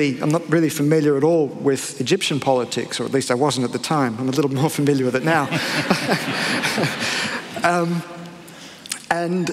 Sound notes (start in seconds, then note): 5.3 laughter